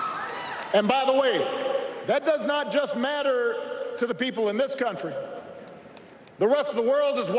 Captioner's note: applause